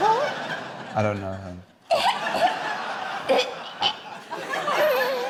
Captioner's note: imitates retching